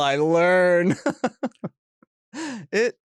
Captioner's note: chuckles